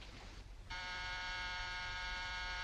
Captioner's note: door bell buzzing